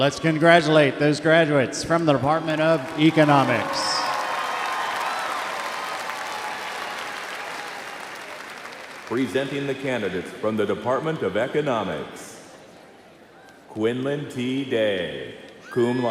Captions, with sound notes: - Let's congratulate those graduates from the Department of Economics. (crowd applauds) - Presenting the candidates from the Department of Economics.